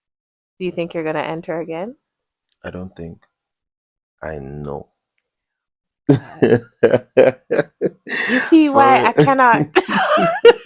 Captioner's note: laughter